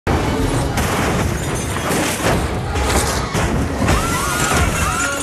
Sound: crashing; screams; crashing

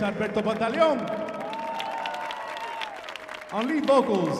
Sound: audience applauding

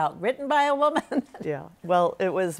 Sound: laughs

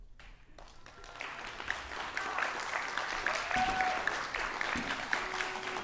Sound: audience applauds and cheers

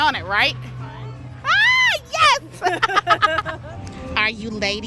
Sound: laugh

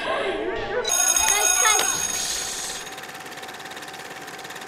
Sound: bell ringing

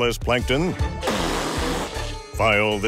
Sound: spitting

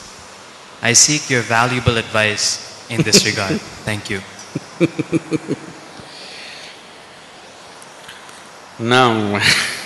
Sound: Sadhguru laughs

